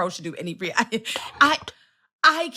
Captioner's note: whisper